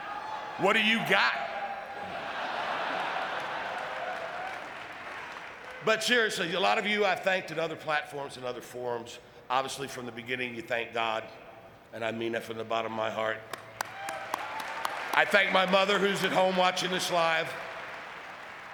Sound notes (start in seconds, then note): 2.0 audience laughing